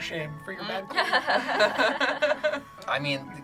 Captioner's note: group laughs